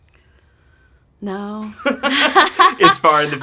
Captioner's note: laughs